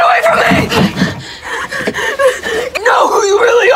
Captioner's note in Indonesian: tertawa